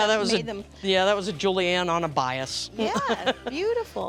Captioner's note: laughter